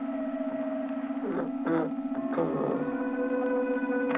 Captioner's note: groaning